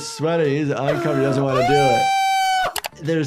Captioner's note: Speedy crying